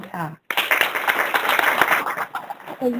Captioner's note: applause